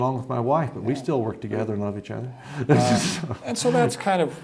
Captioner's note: laughs